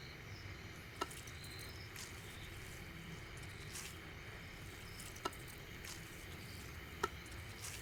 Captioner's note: plants mashing